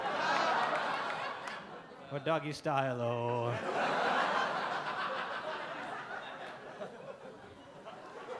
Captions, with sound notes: Or doggy style-o. (audience laugh)